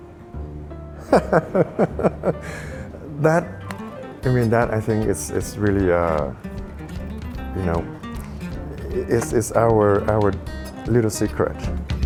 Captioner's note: laughing